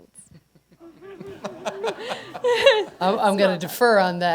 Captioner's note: laughter